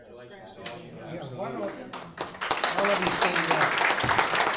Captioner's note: laughing